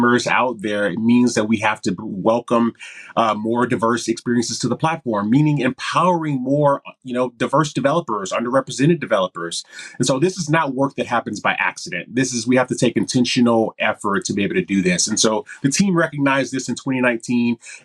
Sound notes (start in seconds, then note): none